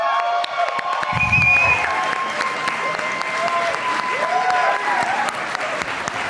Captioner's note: applause